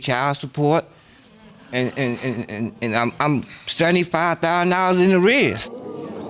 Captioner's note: audience exclaims